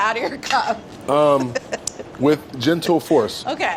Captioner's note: laughs